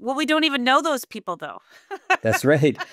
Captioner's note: laughing